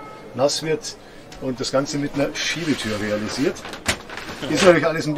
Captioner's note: roller door